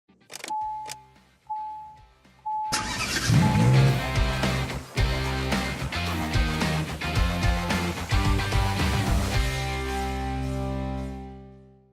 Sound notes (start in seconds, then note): 2.8 car revs; 5.2 rock music